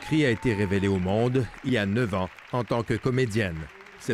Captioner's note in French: applaudissements